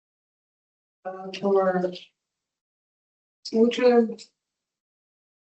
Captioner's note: distorted audio